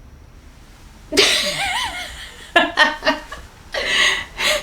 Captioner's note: laughs